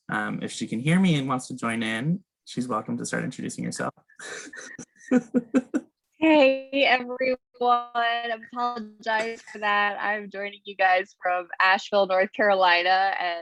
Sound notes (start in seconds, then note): 4.2 laughs